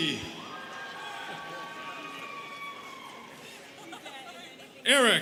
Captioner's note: students cheering